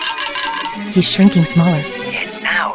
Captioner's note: whispering